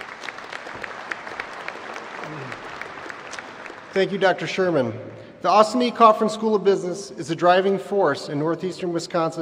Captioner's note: applause